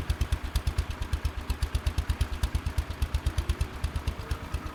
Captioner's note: small engine operating